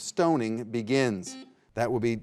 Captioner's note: buzzer beeping